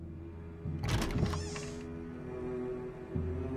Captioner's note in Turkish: Kapı Gıcırtısı Sesi